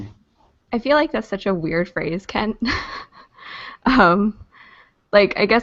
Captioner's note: laughs